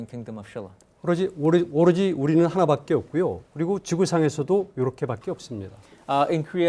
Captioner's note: speaking in Korean